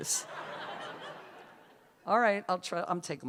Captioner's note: laughter